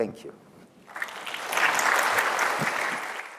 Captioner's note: applause